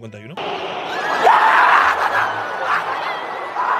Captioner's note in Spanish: grita mucho